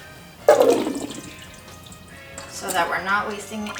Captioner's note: pouring sound